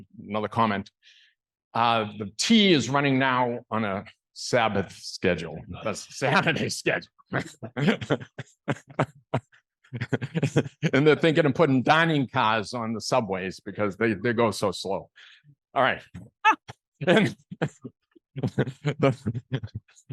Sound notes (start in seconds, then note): 9.9 laughs; 15.7 laughter